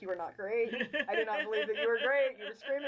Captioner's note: laughing